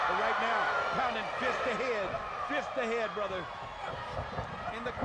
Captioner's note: none